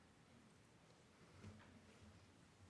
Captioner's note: none